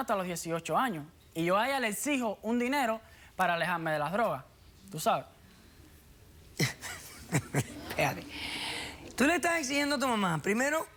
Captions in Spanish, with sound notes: POR LO MENOS HASTA LOS 18 AÑOS. Y YO A ELLA LE EXIJO UN DINERO PARA ALEJARME DE LAS DROGAS, ¿TÚ SABES? [RIENDO] >>ESPÉRATE. TÚ LE ESTÁS EXIGIENDO A TU MAMÁ.